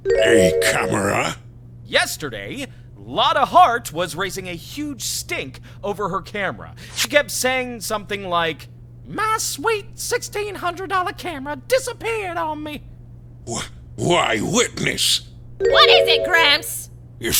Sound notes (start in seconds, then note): none